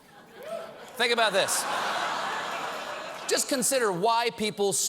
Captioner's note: laughter